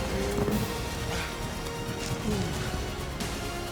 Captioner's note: grunt, thud; breathing heavily